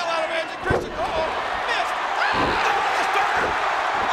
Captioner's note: audience cheers